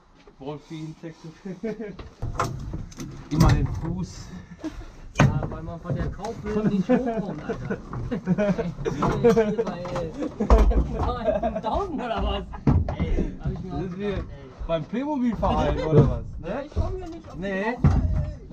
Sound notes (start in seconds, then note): 8.0 laughter